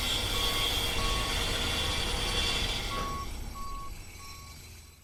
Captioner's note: truck beeping; jackhammering